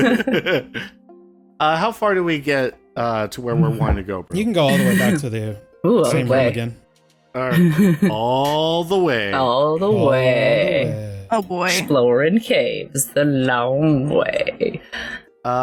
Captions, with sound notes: [laughter] Uh, how far do we get uh to where we're want to go, bro? You can go all the way back to the same room again. All the way. All the way. Oh, boy. Exploring caves. The long way.